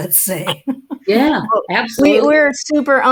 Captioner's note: chuckles